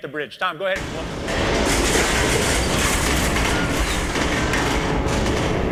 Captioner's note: deafening explosion